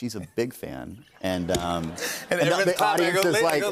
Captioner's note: laughter